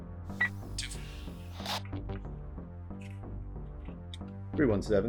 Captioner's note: radio beeps